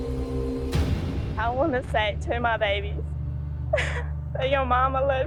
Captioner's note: sobs